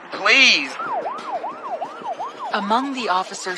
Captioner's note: siren wailing